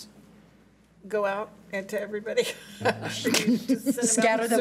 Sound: laughs

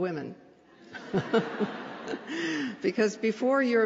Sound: laughter

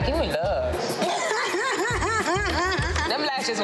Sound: laughing

